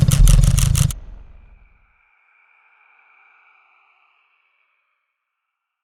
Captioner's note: shuttering stops